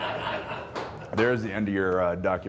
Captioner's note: crew laughing